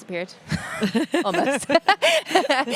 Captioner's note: laughing